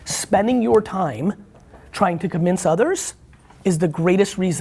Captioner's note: none